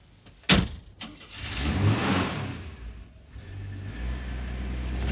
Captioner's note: engine starts